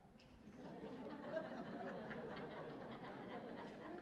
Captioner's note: laughter